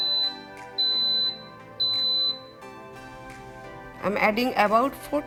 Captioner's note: Instant Pot beeps